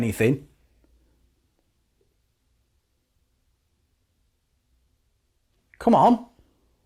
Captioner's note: silence